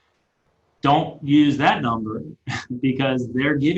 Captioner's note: laughing